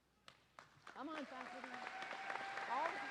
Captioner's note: audience applauding